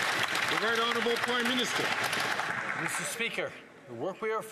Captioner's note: some Applause